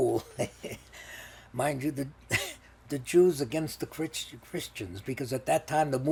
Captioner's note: laughing